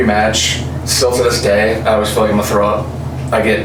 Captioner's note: none